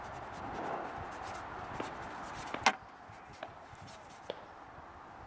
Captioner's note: scratching bristles